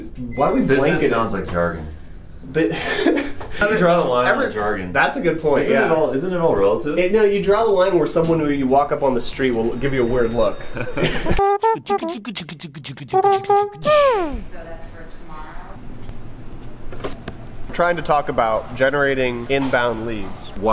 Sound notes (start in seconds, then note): 2.5 laughs; 11.0 laughs; 11.3 trumpet music